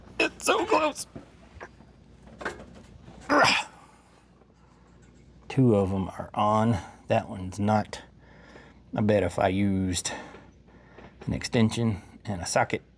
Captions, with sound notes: It's so close. (Grunts) Two of them are on. That one's not... I bet if I used an extension and a socket